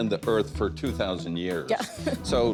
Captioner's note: chuckles